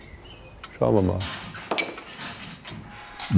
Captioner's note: metallic rumbling